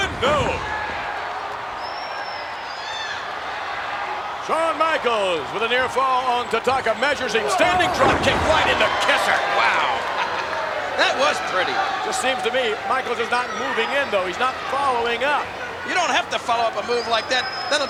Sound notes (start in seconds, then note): 1.1 audience cheers; 9.3 audience cheers; 9.9 chuckles